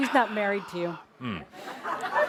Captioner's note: laughter